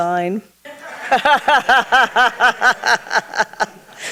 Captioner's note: everyone laughs